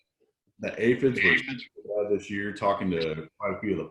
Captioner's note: audio is choppy